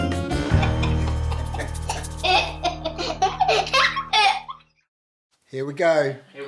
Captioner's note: jaunty music plays; girls chuckling